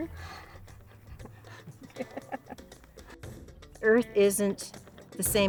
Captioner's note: laughter